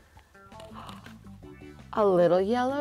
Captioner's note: woman gasps